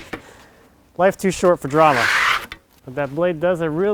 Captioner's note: tool scrapes